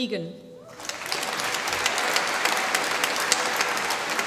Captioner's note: applause